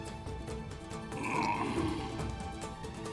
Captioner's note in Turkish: Nefes sesi